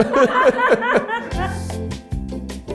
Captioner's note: crew chuckles; ambient music